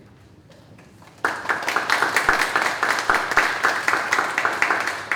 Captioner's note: audience applauding